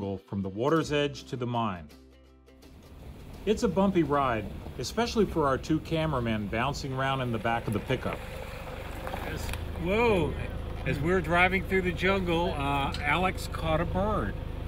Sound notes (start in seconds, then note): none